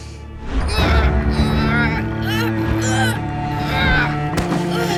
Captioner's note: groaning